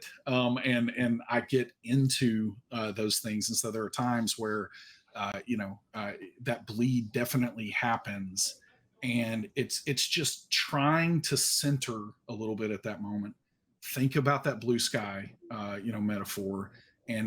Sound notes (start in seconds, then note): none